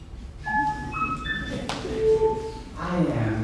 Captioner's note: phone beeps